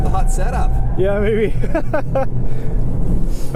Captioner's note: laughs